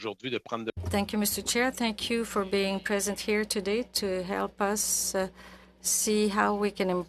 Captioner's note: speaking French